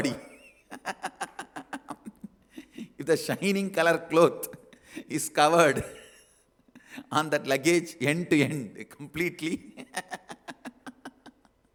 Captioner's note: laughs; laughs